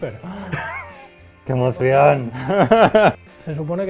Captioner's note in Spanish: Risas